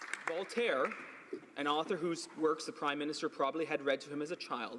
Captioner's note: some Applause